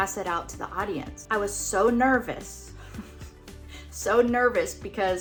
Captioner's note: snickering